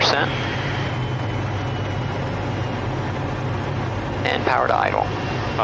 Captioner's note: engine slowing down